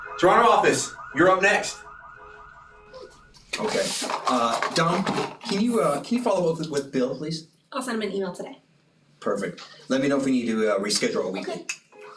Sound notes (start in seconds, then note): 3.6 pencils rattling in cup more softly